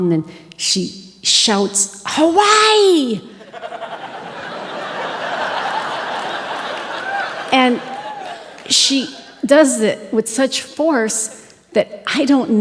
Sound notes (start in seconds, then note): 3.3 audience Laughing